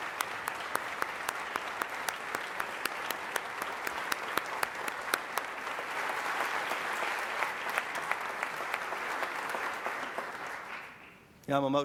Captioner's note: applause